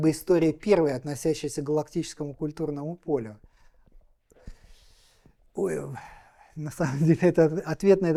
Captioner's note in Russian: вздыхает